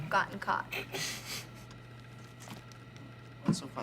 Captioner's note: laughing